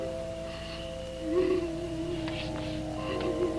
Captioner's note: crying